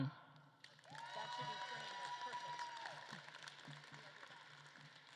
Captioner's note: audience claps and cheers